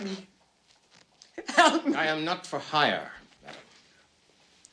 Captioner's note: sobbing